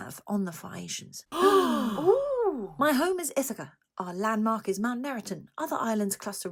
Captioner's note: oooh!